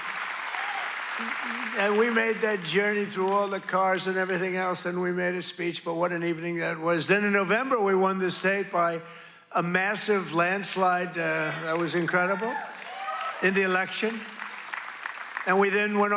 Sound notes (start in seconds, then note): 2.8 cheers and applause